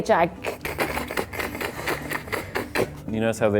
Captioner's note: beatboxing